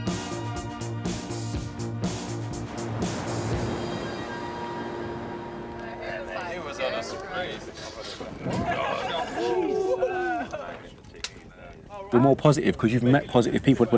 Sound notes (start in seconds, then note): 0.0 upbeat music continues; 8.7 everybody chattering; 8.7 fire crackling